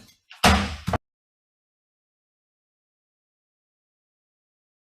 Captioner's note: gavel clunks